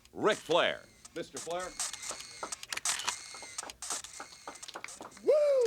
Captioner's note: cameras click